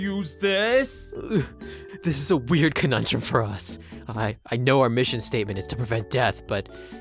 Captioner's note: gags